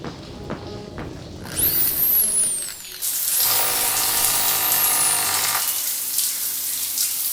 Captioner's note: drill whirring